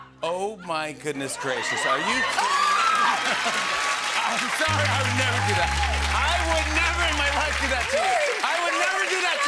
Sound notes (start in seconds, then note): 2.0 laughter and applause; 4.7 sad trombone plays